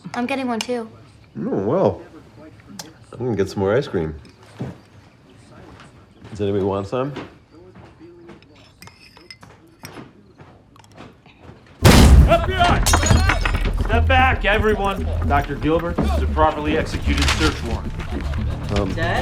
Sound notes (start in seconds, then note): 11.8 door bangs